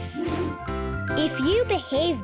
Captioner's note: air whooshing